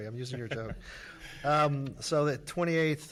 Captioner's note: laughing